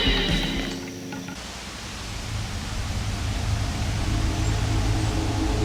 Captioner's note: wind rustling